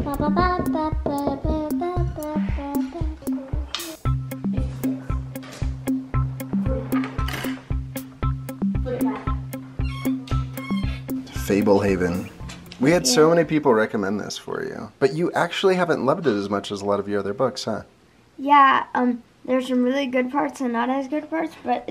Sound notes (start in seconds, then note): 3.3 happy music; 7.4 clanking; 9.8 creaking